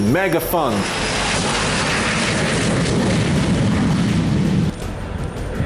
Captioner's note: plane engine roaring